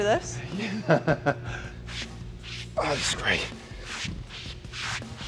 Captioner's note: Sheamus chuckles